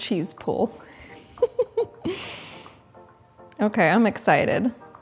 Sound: giggles

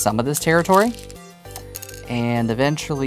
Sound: stones rattling

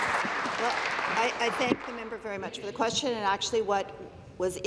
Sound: applause

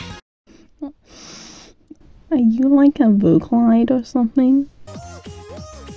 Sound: sniff

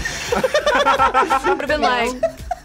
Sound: men laughing

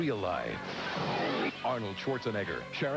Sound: smashing

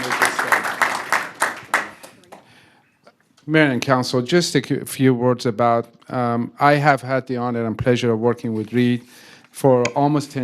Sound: applause

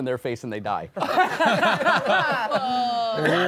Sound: all laughing

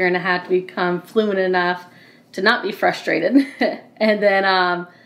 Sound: laughs

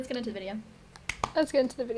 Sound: clap

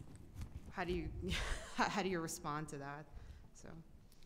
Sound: chuckles

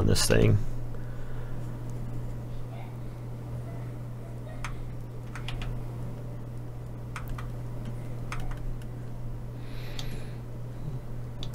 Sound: typing

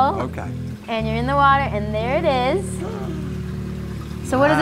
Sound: gasp

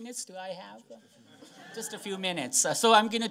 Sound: laughter

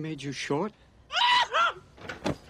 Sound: screams

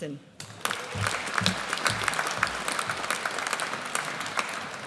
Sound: audience applauds

